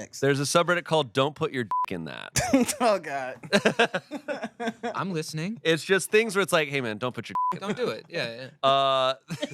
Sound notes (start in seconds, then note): 1.7 beep; 3.4 everyone laughs; 7.3 beep